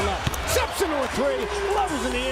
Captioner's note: loud crowd noise